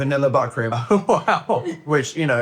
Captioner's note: laughs